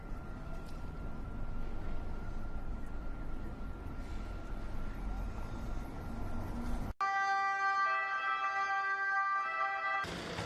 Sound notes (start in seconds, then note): 7.0 sirens wailing